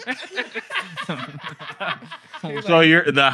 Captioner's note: laughter